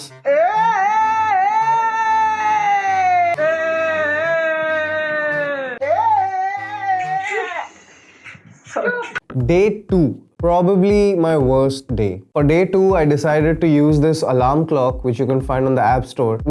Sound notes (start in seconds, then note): 0.2 big screm; 3.3 bigger screm; 5.7 big screm